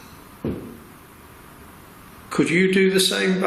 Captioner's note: thud